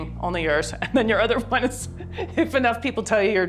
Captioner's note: laughs